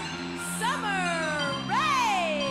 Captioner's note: bell ringing